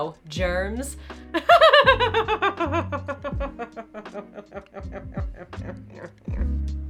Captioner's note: manical laughter